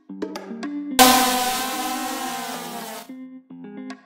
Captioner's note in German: drohnengeräusch